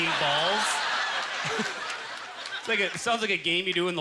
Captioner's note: audience laughter